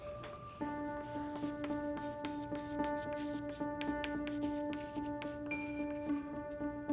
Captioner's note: chalk scratches